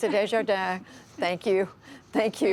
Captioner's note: laughter